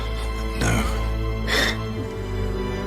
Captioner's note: Watson sniffles